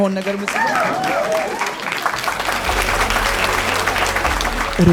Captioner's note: applause and scream